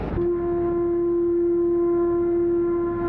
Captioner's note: horn